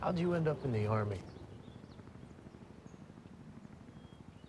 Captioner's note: helicopter flying